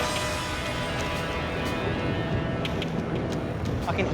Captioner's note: rumbling